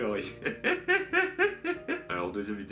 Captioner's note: laughs